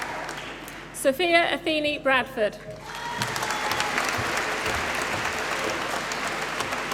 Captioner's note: applause